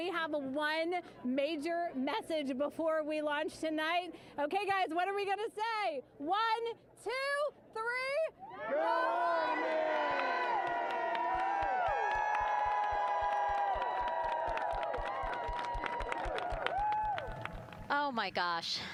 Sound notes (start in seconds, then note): 12.3 applause